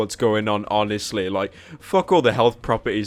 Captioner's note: breath